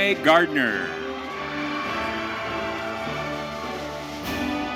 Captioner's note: audience cheering